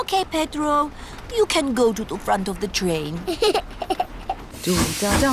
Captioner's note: giggles